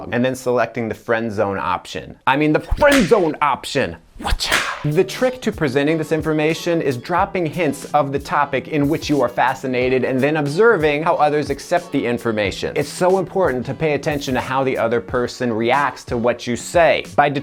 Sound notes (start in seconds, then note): 2.6 whip cracking